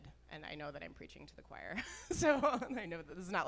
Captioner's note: laughs